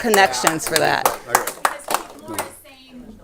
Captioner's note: clapping